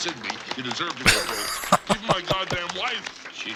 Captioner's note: laughing